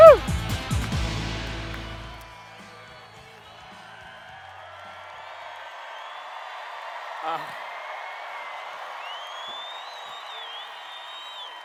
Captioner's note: cheers